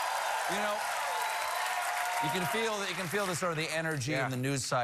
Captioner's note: cheers and applause